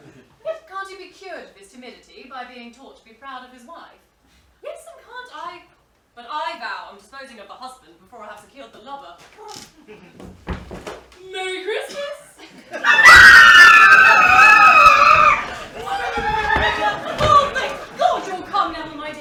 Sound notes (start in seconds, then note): 12.8 both shriek